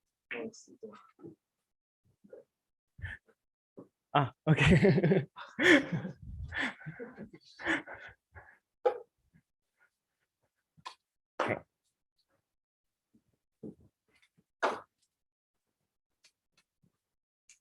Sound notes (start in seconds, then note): 4.9 laughs